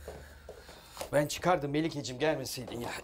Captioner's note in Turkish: none